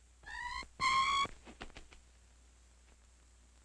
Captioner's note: bat shrieks